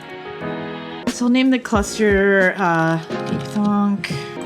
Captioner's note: typing